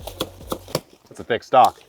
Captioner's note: machete chops